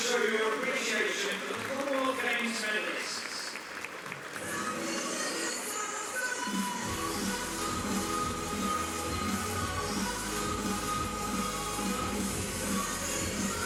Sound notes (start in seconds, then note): 4.0 applause